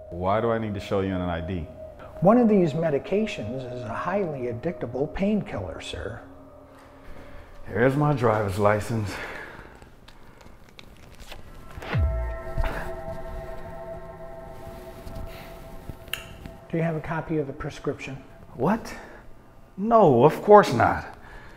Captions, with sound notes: - Why do I need to show you an ID? - One of these medications is a highly addictable painkiller sir. - Here's my driver's license. (ominous sound plays) (groans) - Do you have a copy of the prescription? - What? No, of course not.